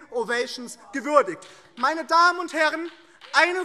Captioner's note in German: Beifall